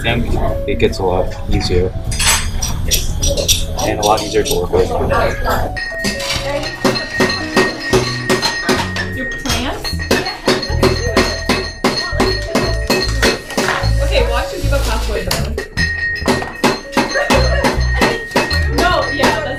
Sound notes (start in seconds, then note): 5.9 hammering; 14.5 students chatting and hammering